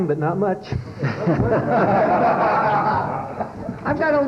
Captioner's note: laughter